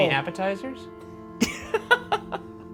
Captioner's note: laughing